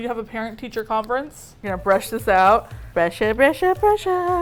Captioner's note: singsong